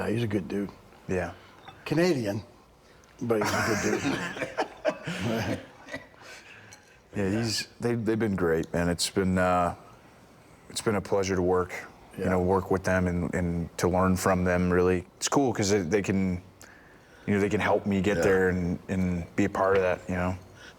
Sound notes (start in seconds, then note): 3.4 Rick and Bron laughing